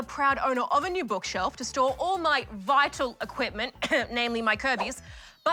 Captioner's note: clears throat